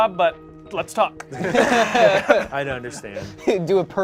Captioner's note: laughs